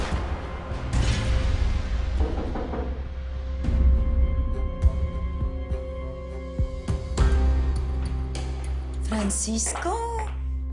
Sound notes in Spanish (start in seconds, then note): 0.2 Disparos; 2.2 Toques en la puerta